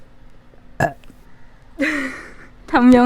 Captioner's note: burp